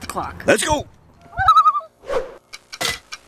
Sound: loon call

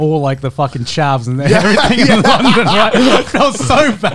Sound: everyone laughs

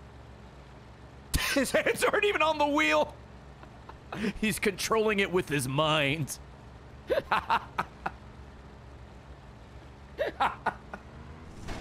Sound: laughs

